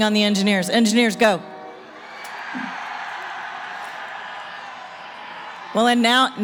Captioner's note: cheering